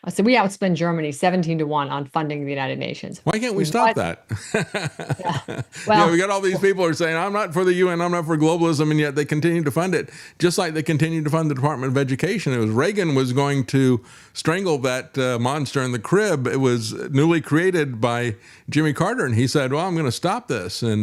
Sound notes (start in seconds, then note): 5.9 laughs